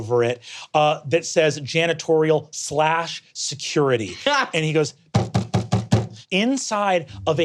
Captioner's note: knocks